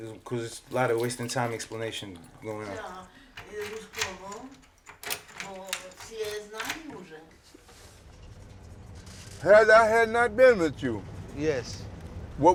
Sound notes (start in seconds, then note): 3.7 customer speaking in a foreign language; 5.9 key rattling